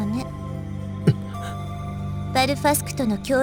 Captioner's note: gasp